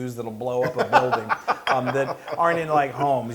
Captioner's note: laugh